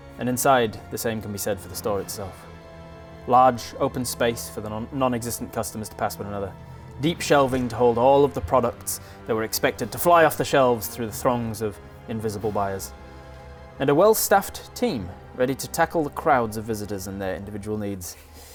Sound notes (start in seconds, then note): none